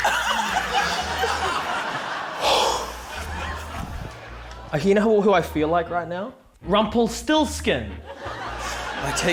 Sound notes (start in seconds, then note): 2.3 exhales